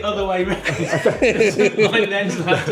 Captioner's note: laughing